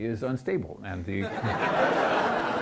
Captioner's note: audience laughs